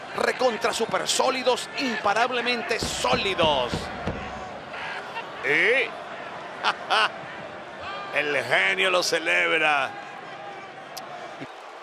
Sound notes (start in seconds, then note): 4.5 applause; 6.6 laugh; 11.0 applause